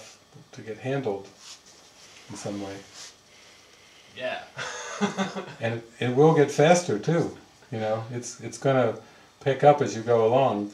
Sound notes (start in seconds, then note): 4.6 laughing